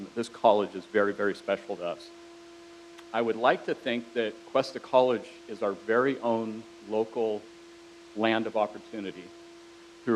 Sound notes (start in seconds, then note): none